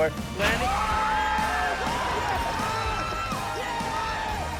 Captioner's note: crowd cheering